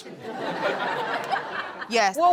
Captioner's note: audience laughs